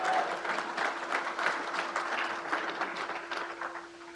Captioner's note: crowd applauds